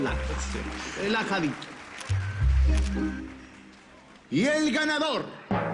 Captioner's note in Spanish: Aplausos; Redoble